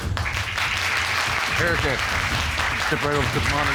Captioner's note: applause